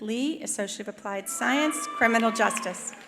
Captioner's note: attendees cheering